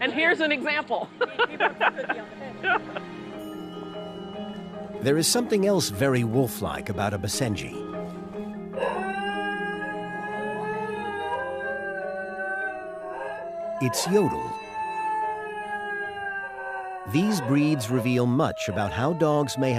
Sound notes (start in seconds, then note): 1.0 laughs; 8.7 howling